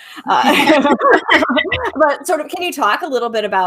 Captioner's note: laughs